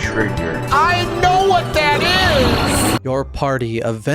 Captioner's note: lavos noise